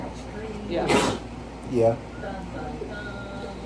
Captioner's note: sneezes